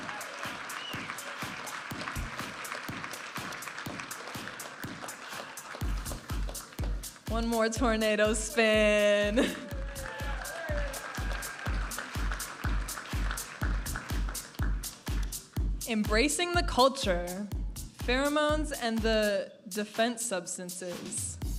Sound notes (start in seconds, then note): 0.1 upbeat music; 9.6 audience applauding and cheering; 13.1 upbeat music